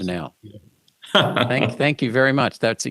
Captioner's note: chuckling